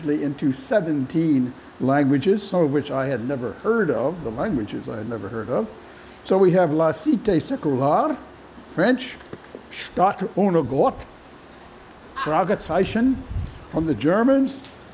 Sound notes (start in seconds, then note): 7.9 french; 10.4 german